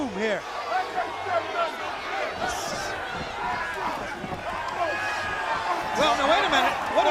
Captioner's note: crowd chatter